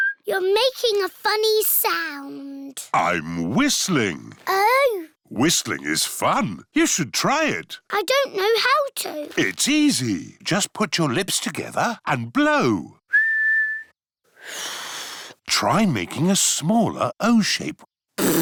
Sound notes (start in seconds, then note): 0.0 whistles; 13.1 whistles; 13.1 failed whistle; 18.2 blows raspberry